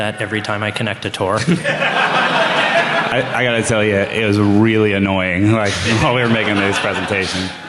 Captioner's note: laughter